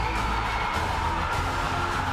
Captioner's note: cheers and applause